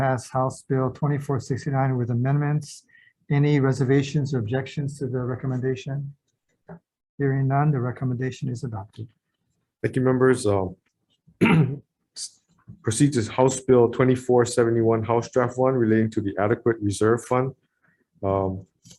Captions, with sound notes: to pass HB 2469 with amendments. Any reservations or objections to the recommendation? Hearing none, the recommendation is adopted. - Thank you members. (clears throat) Procedures, HB 2471, HD1 relating to the Adequate Reserve Fund.